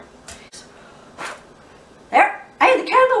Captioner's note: blows air